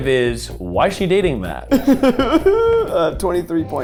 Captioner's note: laughing